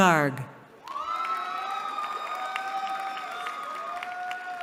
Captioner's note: cheering